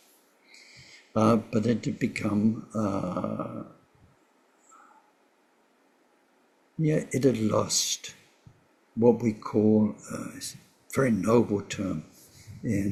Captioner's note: tibetan